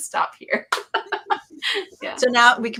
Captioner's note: laughs